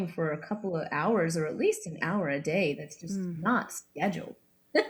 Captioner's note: laughs